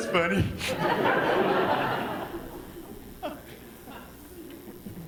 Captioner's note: audience laughs